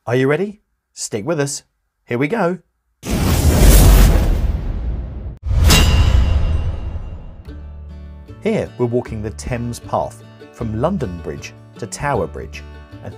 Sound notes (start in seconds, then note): 3.2 dramatic music; 3.2 logo clanging